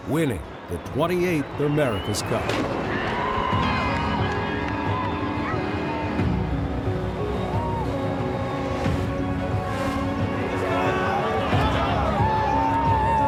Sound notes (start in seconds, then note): 2.5 dramatic music; 3.1 crowd cheering